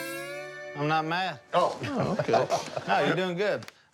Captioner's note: laughs